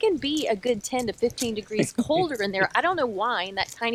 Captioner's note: laughs